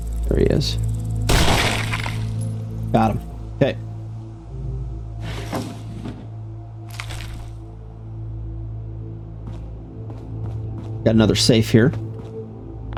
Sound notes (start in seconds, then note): 1.3 gun fires